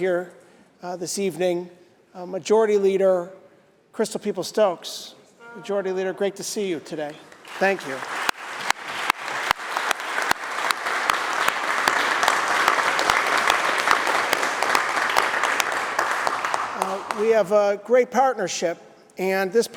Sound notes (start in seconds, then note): 9.7 applause